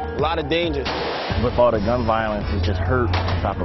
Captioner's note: gunfire